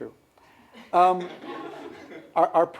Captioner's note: laughter